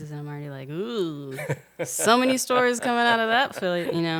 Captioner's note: laughing